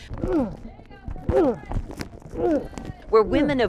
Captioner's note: aggressor grunting